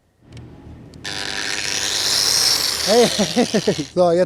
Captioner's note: Flexgeräusche